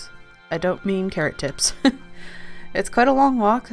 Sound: laughs

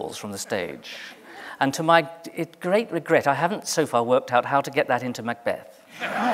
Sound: laughter

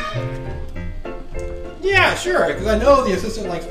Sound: voiceover

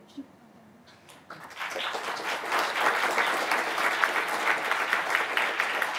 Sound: audience applauding

